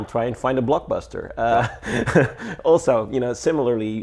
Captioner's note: laughs